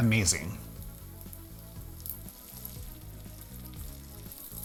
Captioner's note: oil sizzling